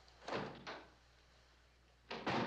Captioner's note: kapı açılışı